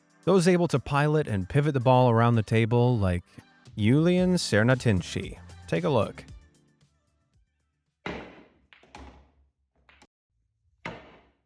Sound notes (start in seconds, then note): 7.9 cue ball slams